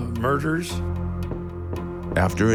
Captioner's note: knocking